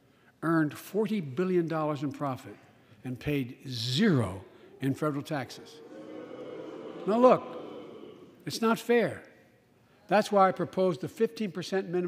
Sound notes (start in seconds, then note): 6.2 boos